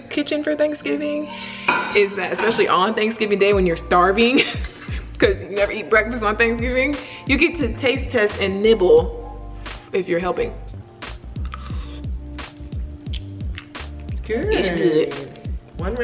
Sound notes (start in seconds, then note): 11.4 spoon scrapes on the teeth; 11.4 gentle upbeat music